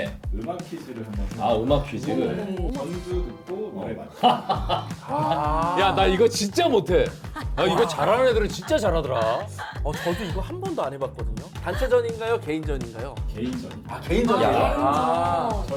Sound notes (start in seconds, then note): 7.2 laughing out loud